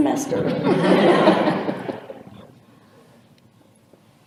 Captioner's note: laughter